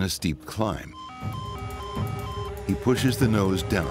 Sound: alarm blaring

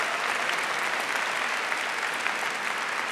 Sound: applause

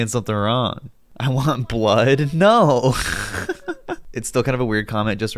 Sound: giggles

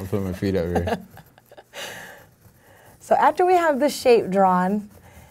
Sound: laughing

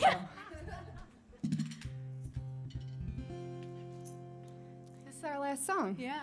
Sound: laughing

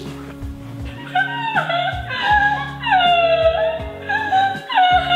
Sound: crying

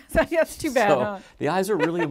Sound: laughs

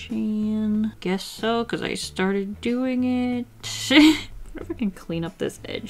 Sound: laughs

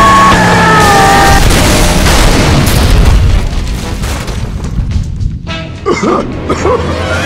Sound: Rochelle screaming; coach screaming; car crashes; Coach coughing

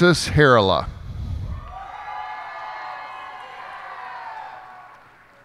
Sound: cheers and applause

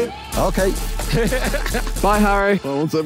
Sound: Tobi laughing

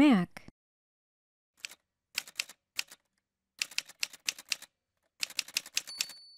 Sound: typewriter sounds

